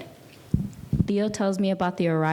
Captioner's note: speaking in a foreign language